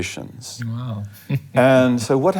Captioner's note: laughing